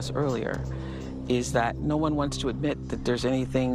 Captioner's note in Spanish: AUDIO EN INGLéS